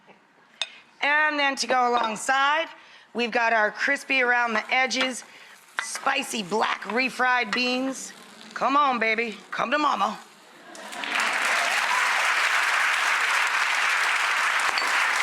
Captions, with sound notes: and then to go alongside, we've got our crispy-around-the-edges, spicy black refried beans. Come on, baby, come to mama. (audience applauds)